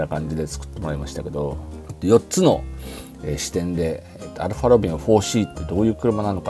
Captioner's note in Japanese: 鼻息